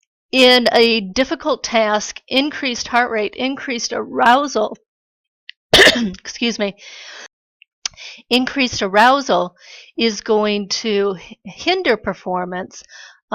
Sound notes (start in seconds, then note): 5.7 cough